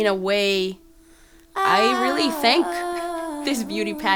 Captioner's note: laughs